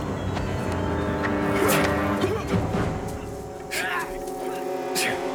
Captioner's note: grunts, Yells